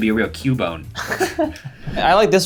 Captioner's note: laughs